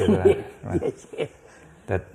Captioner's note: laughs